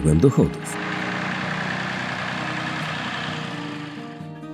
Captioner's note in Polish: odgłos pracy ciągnika rolniczego